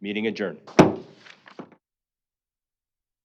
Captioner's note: gavel banging